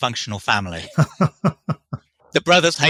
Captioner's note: laughs